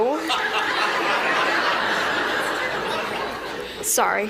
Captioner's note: laughter